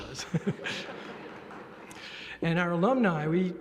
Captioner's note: laughter